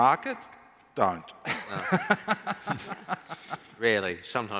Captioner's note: laughs